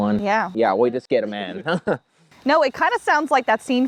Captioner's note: laughs